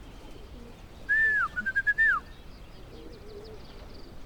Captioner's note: whistling